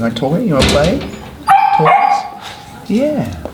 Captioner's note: dog barking